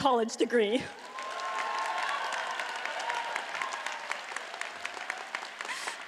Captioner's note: audience cheers and applauds